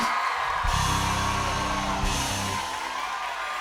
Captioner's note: cheers and applause